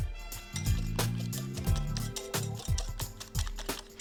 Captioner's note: egg squelches